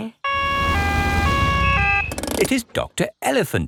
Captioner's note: siren wails